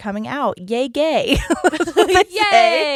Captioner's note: giggles quickly